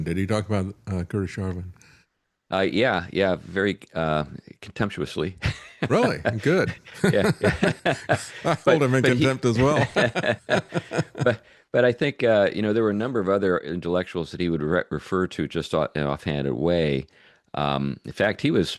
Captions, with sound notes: Did he talk about Curtis Sharpen? Yeah, yeah, very contemptuously. Really? Good. Hold him and contempt as well. (Both Laughing) But I think there were a number of other intellectuals that he would refer to just off-handed way. In fact, he was